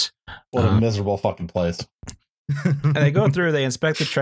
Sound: chuckles

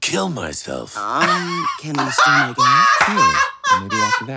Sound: Trixie and Katya laughing

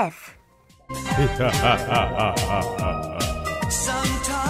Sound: evil laugh

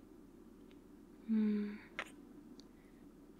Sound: kiss

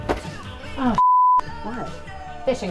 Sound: beep

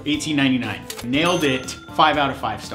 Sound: cash register sound

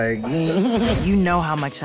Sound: laughs

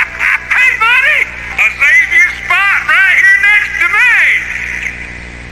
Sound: laughing; echoing

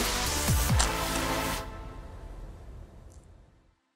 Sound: crash

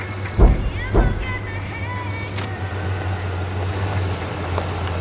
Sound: thumping in trunk

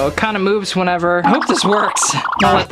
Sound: wobbly squawk

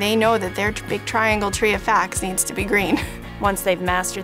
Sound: laughs

